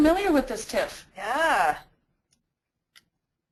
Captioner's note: voiceover